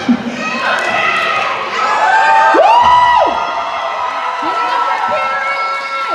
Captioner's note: cheering